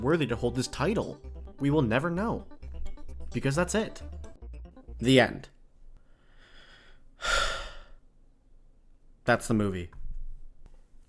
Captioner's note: deep sigh